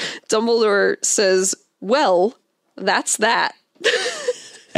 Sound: laughs

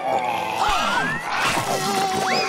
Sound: gasping

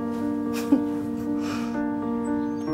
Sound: laughing

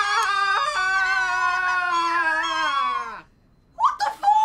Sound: screams

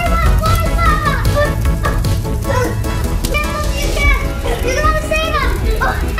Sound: indistinct children's shouting

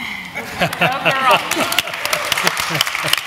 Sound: applause

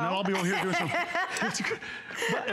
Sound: laughter

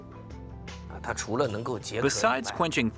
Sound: speaking Chinese

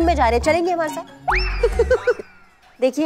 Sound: laughter

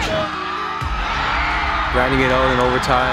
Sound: cheers

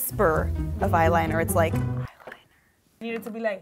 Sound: whispering

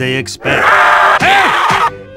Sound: Railgunner screaming

